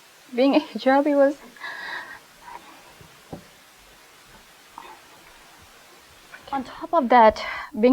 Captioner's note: holding back tears